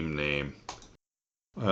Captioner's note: click